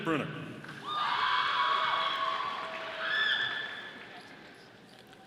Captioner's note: audience applauding